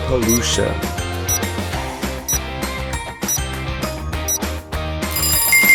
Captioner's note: timer ticking